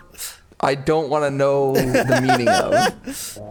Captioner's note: laughter